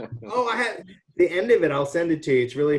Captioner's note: chuckles